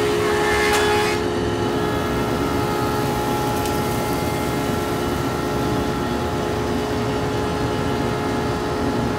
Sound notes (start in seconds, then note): 3.2 machine whirring